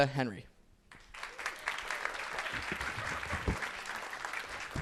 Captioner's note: audience applauds